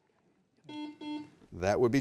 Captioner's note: buzzer beeps